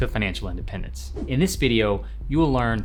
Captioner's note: whooshing